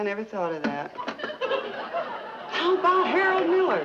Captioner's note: audience laughing